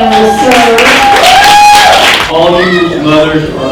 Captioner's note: applauding and cheering